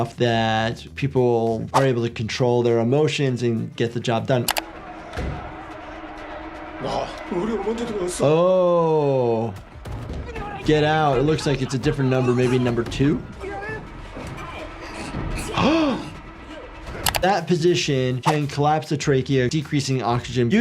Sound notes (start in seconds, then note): 6.8 player speaks in Korean; 7.6 Player 343 speaks in Korean; 13.4 Player 390 speaks in Korean; 15.6 announcer speaking in Korean; 15.6 gasps